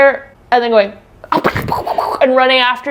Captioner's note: imitates characters growling